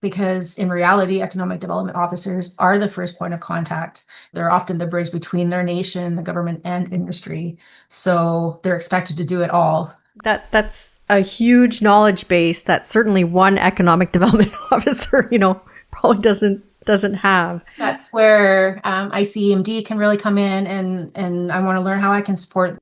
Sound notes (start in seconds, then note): 17.7 laughs